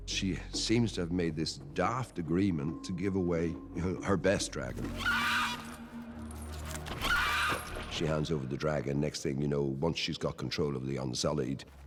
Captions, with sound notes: She seems to have made this daft agreement to give away her best dragon. (SCREECHES) She hands over the dragon. Next thing you know, once she has control of the Unsullied...